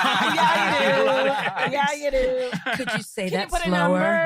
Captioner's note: group laughing